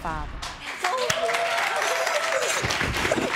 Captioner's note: sobbing